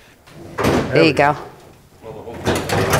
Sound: hood clicking

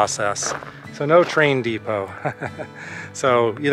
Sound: laughter

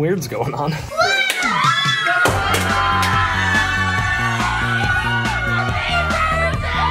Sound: all scream; energetic music

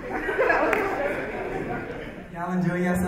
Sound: audience laugh

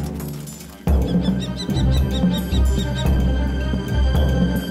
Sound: kestrel calls

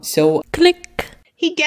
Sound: click

